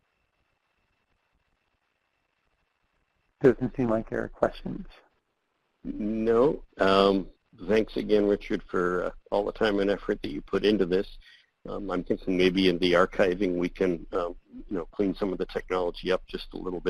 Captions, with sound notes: - [Voiceover] Doesn't seem like there are questions. - [Voiceover] Thanks again, Richard, for all the time and effort that you've put into this. I'm thinking maybe in the archiving we can clean some of the technology up just a little bit.